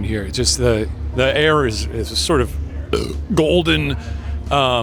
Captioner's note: belches